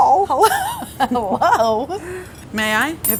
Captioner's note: laughter